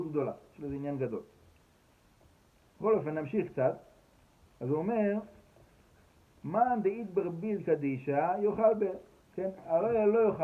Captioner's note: Aramaic